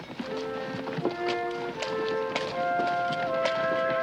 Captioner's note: footsteps